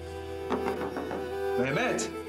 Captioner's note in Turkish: Kapı Çalıyor